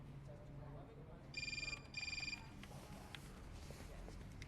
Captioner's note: cell phone ringing